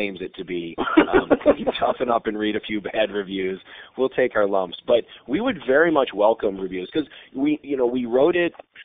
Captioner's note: laughter